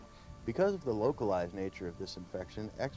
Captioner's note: voiceover